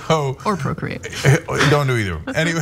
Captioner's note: laugh